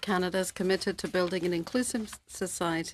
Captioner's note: speaking French